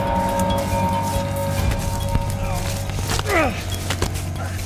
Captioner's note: grunts